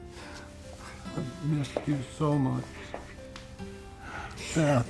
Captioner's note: sobbing